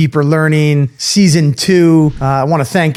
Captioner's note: screen whooshes